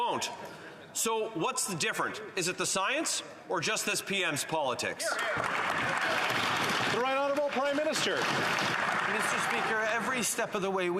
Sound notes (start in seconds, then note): 8.9 some Applause